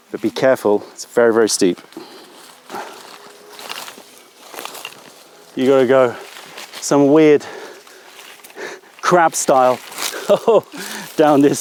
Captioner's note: laughter